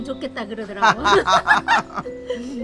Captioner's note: both laughing